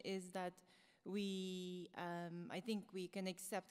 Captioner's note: none